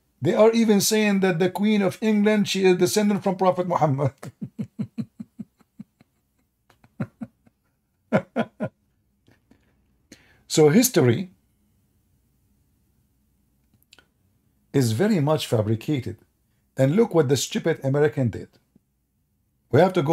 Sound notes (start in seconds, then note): 3.9 Ketawa